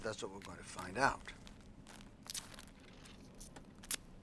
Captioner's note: match Scratching